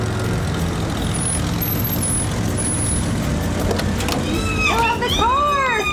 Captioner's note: brakes squeal, car door opens; ellie squealing